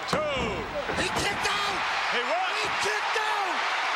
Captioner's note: crowd cheers